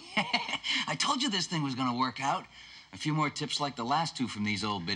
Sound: laughs

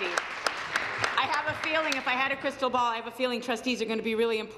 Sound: applause

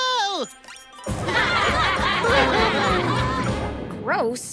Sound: laughing

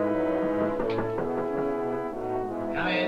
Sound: knock on door

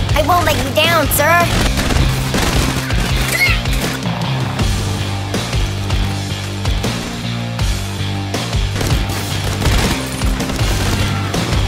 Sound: epic 4-player action, gunfire and explosions

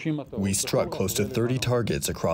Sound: through translator

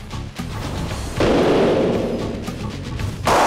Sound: gunshot

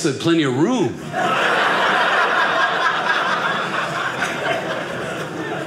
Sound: audience laughing

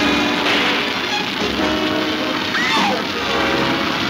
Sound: gun firing; Mary screams

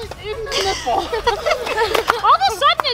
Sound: laughing

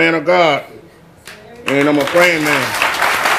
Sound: audience applauds

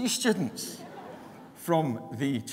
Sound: laughter

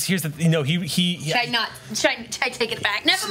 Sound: stutters over words

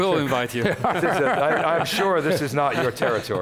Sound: laughs

